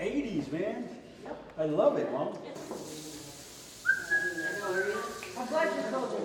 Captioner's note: whistling